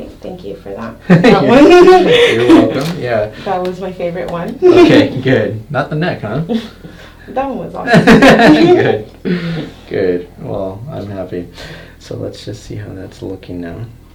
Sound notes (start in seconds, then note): 1.0 laughter; 7.8 laughter